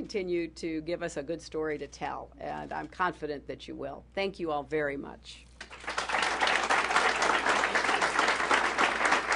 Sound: applause

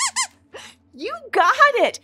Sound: squeaks squeaks

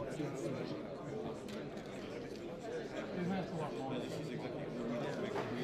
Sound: indistinct conversation

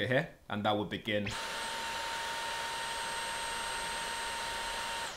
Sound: vacuum whirring

